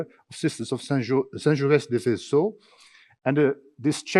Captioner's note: speaking in foreign language